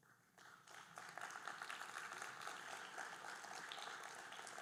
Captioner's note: audience applauding